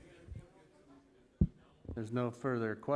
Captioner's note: ambient chatter